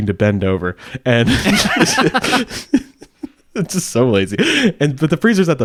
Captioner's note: laughs